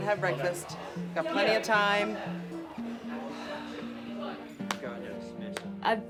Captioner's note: exhales soothingly